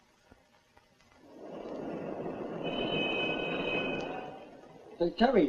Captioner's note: city traffic